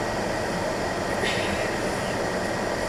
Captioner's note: clears throat